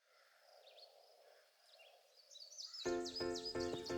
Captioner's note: birds singing; lively music